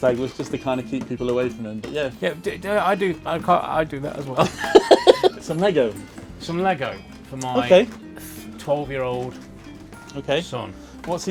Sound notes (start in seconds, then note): 4.4 laughs